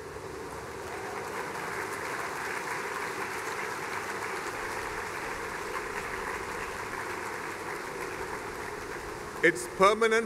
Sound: applause and cheers

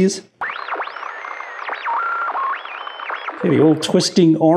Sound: radio interference blaring

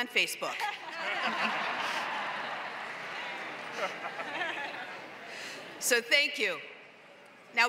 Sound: laugh

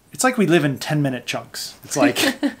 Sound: laughter

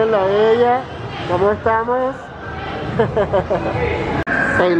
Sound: laughs

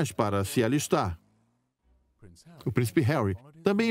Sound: voiceover

